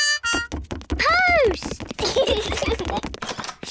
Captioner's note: both giggle